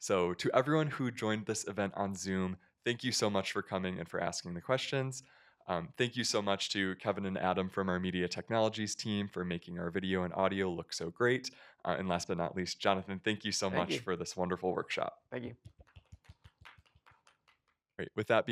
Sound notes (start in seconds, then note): 16.0 applause